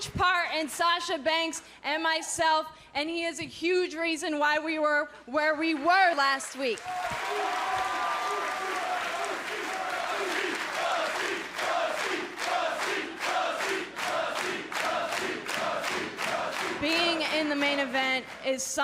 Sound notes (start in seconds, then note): 8.0 cheers & applause; 10.0 fans chanting